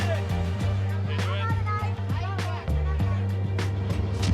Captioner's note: people chatting